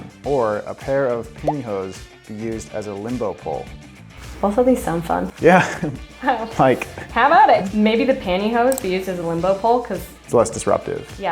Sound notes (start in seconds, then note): 4.2 laughing